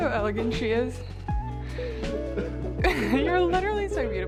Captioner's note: calm music; chuckling